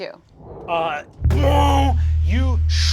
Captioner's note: imitating bass guitar